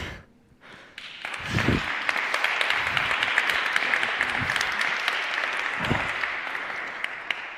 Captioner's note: applause